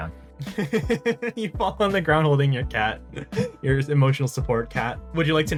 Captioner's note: laugh